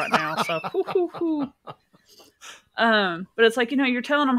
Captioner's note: laughs